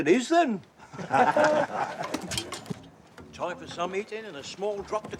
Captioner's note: all chuckle